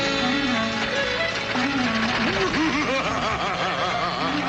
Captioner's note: lively music; machine laughing